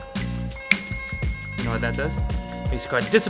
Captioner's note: snaps